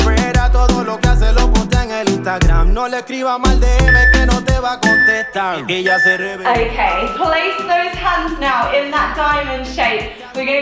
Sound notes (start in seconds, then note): 3.9 workout timer beeping